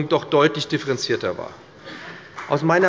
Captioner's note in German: Beifall bei der FDP